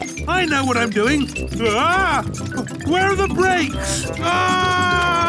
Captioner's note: scream